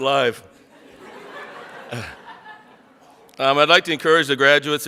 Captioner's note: audience laughs